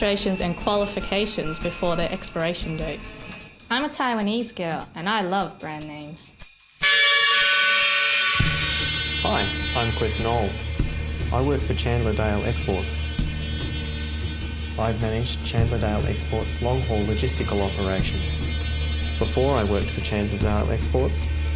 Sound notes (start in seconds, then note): 6.8 horn blast